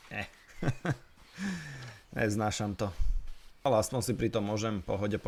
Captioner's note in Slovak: smiech